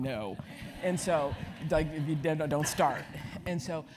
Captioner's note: laugh